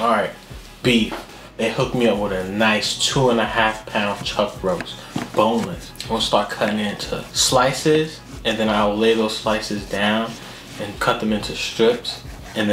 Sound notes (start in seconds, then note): none